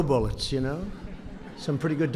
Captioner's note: laughter